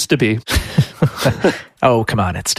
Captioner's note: laughs